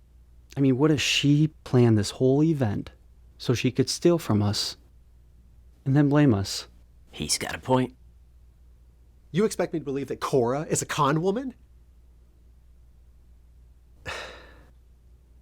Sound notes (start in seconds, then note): none